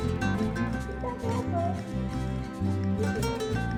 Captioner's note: child talking in the background